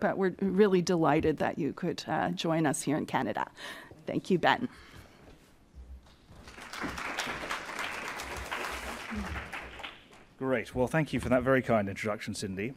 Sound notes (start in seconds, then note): 6.4 applause